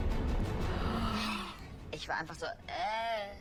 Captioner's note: intense music; gasps; show contestant speaking in German